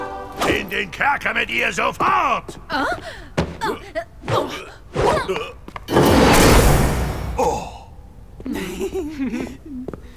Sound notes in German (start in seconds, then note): 2.3 Überraschte Laute; 5.9 Zauberhafte Klänge